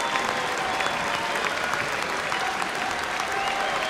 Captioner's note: cheers and applause